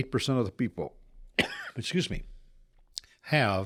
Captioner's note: coughs